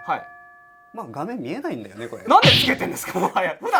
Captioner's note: laugh